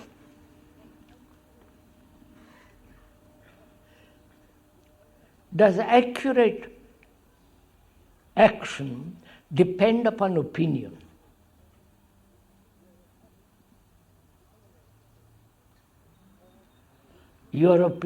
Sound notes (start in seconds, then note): 4.6 laughs